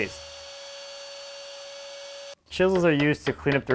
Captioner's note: router buzzes